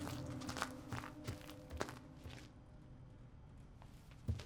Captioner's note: popcorn crunching